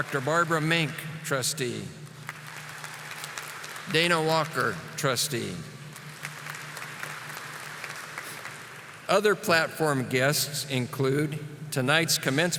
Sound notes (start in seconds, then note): 0.0 audience applauding; 5.9 audience applauding